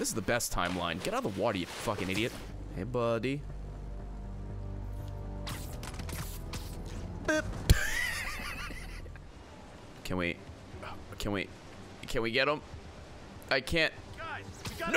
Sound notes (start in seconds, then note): 7.7 laughs